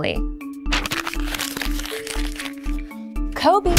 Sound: paper being crumpled

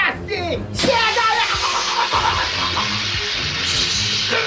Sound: spraying

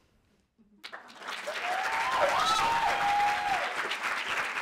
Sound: audience applauding

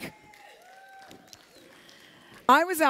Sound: applause

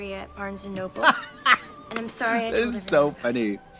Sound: Katya cackles

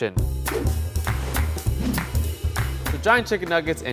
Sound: upbeat music; apron whooshing

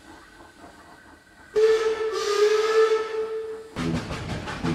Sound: Engine from the Other Railway whistles in the distance

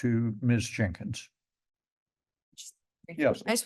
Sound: pause

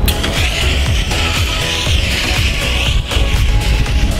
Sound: spraying

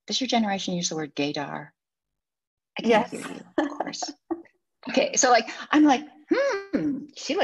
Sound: she laughs

